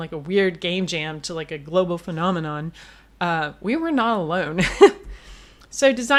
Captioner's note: laughs